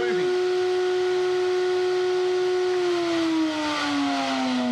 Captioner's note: electric motor roaring